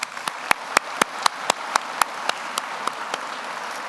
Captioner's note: everyone applauds